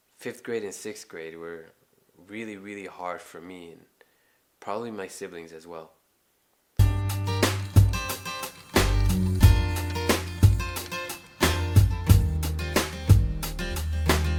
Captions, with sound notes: Fifth grade and sixth grade were really, really hard for me, and probably my siblings as well. (upbeat music) (spray paint can hissing)